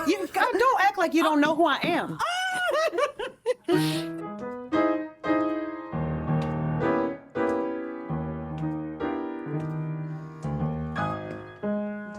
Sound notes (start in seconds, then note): 2.4 hearty laughter